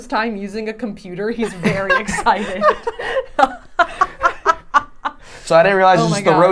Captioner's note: laughing